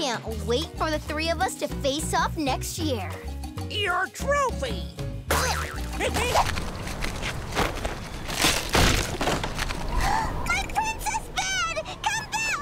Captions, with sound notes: Can't wait for the three of us to face off next year. Your trophy. [laughing] [gasping] My princess bed! Come ba-! Aah!